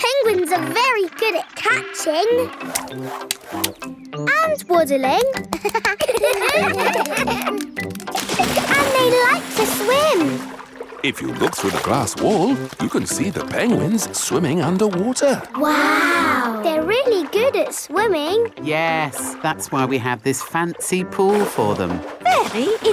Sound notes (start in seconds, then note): 5.3 children laugh